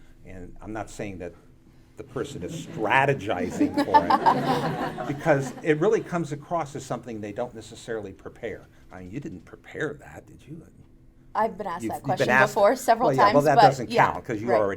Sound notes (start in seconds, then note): 4.3 audience laughing